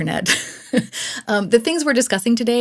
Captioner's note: laughs